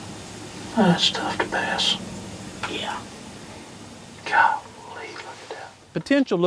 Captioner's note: whispering